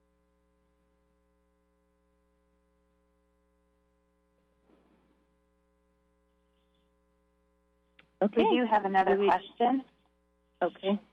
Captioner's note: silence